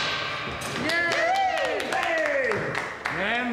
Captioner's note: applause and cheering